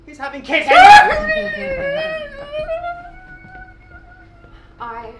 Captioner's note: alfred squeals!